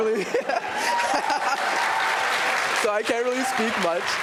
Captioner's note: audience laughter, cheering and applause